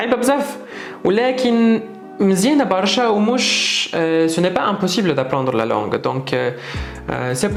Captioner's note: in Tunisian 🇹🇳 lol